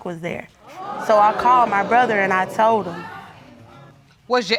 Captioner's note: crowd gasping